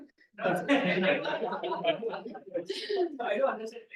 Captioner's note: class laughs